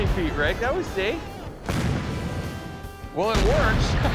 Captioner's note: loud boom